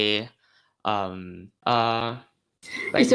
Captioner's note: stutter